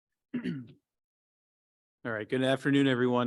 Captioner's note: clears throat